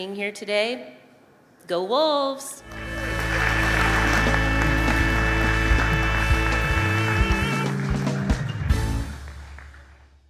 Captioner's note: applause & music